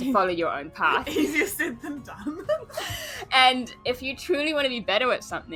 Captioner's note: laughs